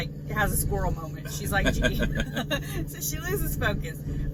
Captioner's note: laughs